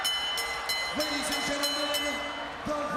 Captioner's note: bell ringing